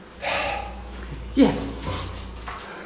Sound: huff

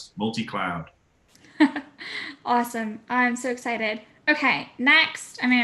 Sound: laugh

